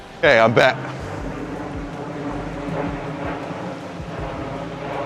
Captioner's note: airplane engines droning